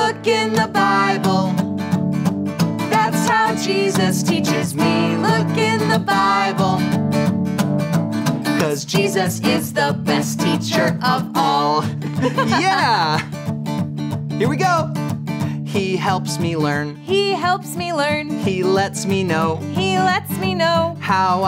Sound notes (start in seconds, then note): 12.0 laughter